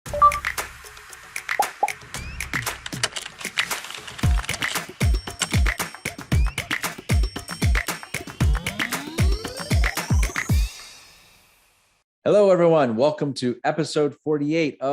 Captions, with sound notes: (upbeat music) (keyboard keys clacking) Hello everyone, welcome to episode 48